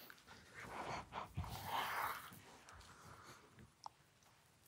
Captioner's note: group breathing heavily